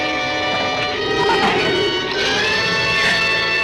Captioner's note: shrew chatters